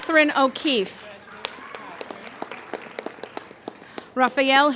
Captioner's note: applauding